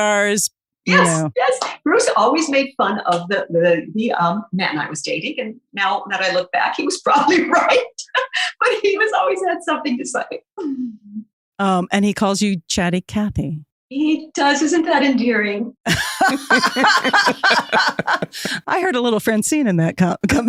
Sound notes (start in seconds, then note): 8.3 laughs; 15.8 guffaw